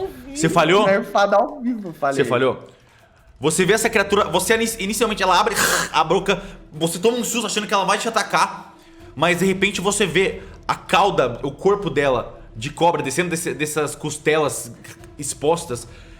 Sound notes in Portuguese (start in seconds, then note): 5.6 Ahrg